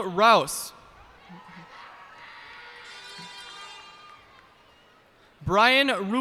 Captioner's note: cheers and applause